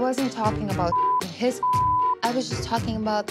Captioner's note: beep